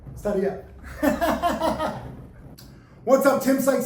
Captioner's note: laughing